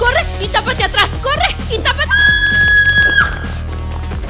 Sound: scream

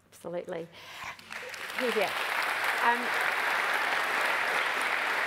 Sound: applause

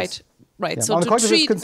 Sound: voiceover

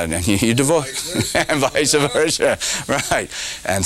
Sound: laughter

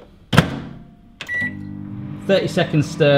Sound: electronic beeping

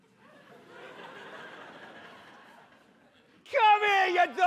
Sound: audience laughs

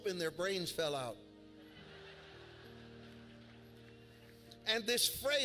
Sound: congregation laughs

